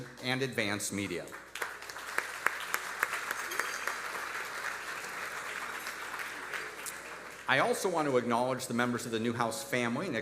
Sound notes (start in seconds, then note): 1.0 audience applauding